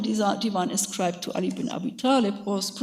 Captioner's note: speaks in a foreign language